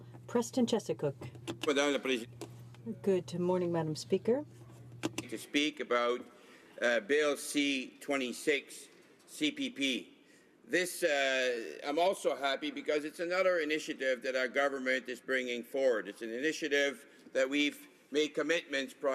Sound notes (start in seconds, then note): 1.9 speaking French